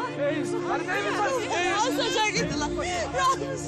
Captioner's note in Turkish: Herkes bağırışıyor